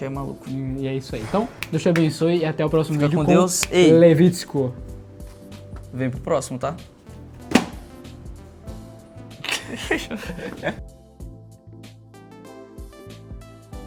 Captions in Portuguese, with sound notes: é maluco. E é isso aí. Então, Deus te abençoe e até o próximo vídeo. Levito, vem pro próximo, tá? [risadas] Ja.